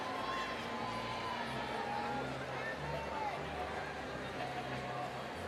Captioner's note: overlapping chatter